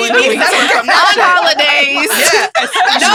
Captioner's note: laughs